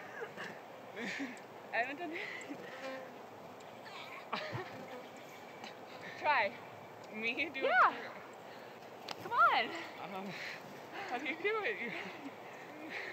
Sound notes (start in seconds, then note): 1.0 laughing; 4.2 groaning